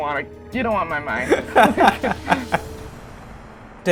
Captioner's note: laughter